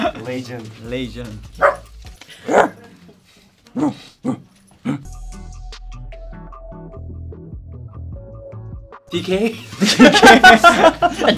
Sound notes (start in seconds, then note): 1.6 barks; 1.6 puppy barks; 4.2 soft bright music; 9.7 members laugh